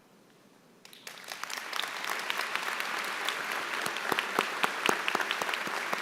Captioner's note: applause